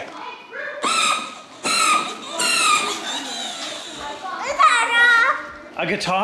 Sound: engine whizzing

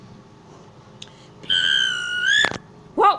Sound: guard's whistle blows

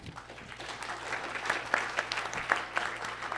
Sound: applause

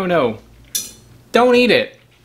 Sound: fork clinks

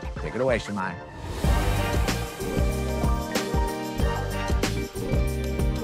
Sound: transition whooshing

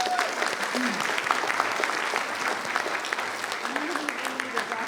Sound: people cheering; people clapping

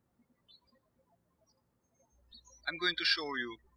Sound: birds chirping

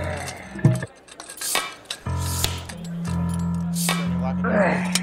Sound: metallic clanging

